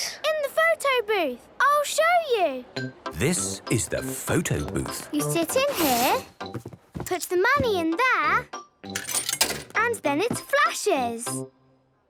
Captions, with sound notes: - In the photo booth. I'll show you! - This is the photo booth. - You sit in here... Put the money in there... - (coin tumbling) - And then it flashes.